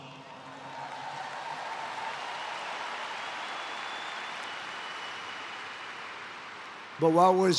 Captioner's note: applause